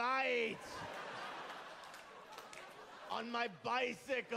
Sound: laughter

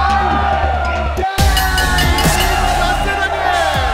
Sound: bell ringing

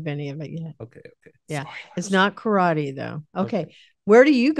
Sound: whispering

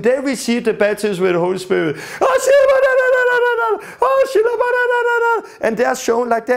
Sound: shouting loud in tongues and waving arms

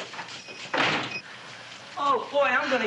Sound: thumping; doorbell jingling

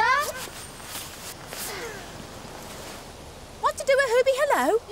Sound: wind blows

